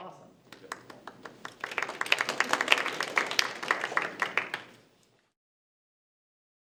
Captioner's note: attendees applaud